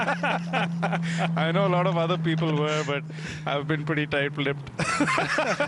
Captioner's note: laughter